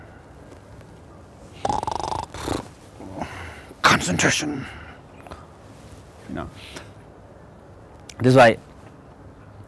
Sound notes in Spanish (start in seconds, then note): 1.6 Ronquidos